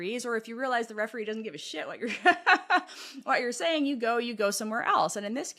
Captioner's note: laugh